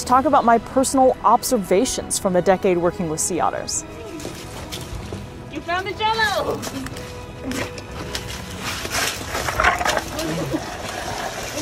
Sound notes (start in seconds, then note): 4.1 background music; 6.8 background music; 6.8 scuffling noises; 8.8 noise of ice blocks falling; 9.2 background music